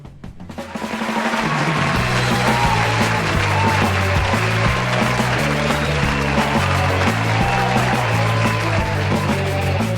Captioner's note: applause